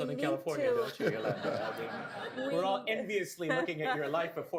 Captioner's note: laughter